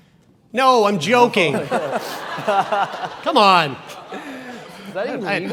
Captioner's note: audience laughs